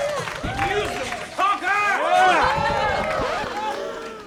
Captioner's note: cheers